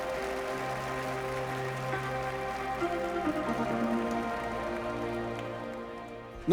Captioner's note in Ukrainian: оплески